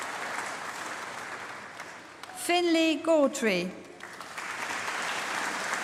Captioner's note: applause